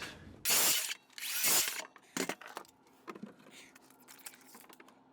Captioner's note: saw cutting quickly